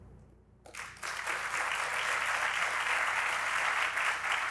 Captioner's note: audience applauding